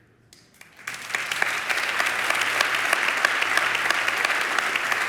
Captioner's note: audience applauds